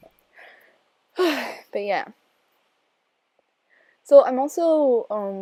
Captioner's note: sigh